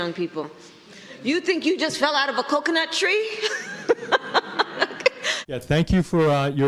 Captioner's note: laughs